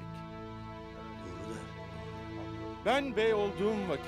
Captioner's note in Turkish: Konuşma sesleri